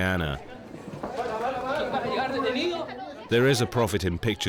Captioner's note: people shouting